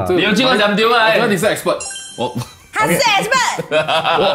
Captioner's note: laughs